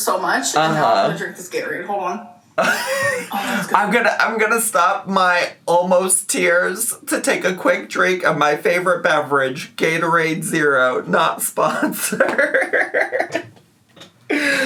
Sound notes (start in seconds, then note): 2.6 laughs; 11.7 laughs